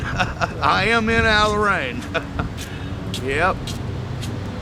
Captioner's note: laughs; chuckles